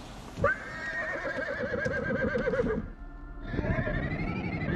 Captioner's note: horse neighing